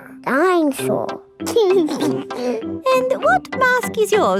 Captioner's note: giggles